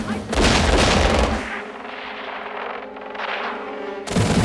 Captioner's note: men Shouting; radio: Gunshots